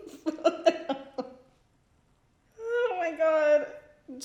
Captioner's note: laughs